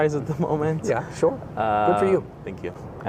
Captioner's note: laughs